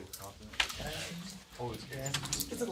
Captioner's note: students murmur